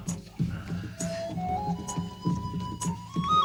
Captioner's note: men murmuring